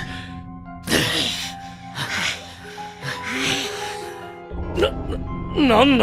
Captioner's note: pant pant; pant pant…